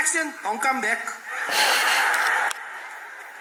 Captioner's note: laughs